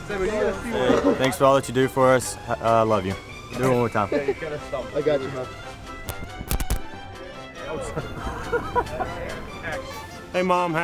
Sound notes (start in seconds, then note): 5.8 laughter